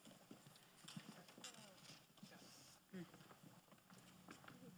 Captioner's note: none